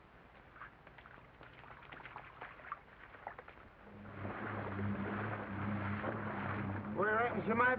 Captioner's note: water sloshes